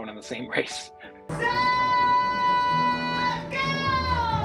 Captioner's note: crowd cheers